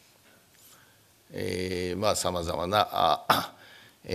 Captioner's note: speaking japanese